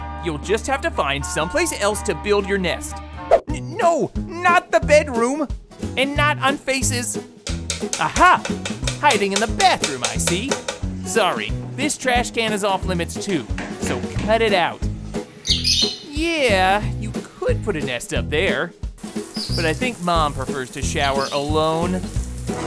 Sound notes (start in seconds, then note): 7.5 pecking; 15.1 chirping